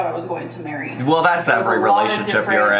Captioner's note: laughs